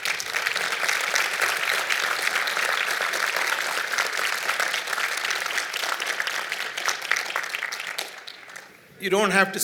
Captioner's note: applause